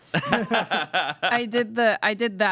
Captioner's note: everyone laughs